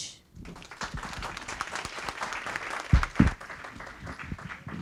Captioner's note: audience clapping